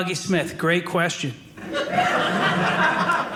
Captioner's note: audience laughing